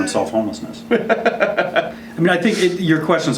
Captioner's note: laughing